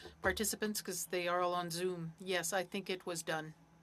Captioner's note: speaking French